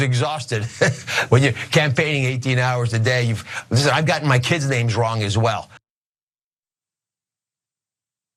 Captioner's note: laugh